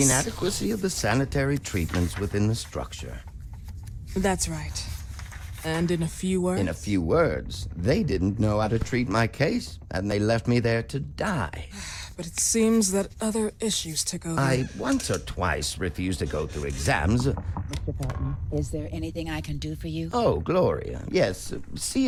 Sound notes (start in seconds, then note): 16.3 door opening; 17.1 door knocking